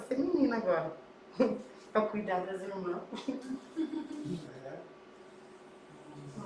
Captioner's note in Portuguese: risos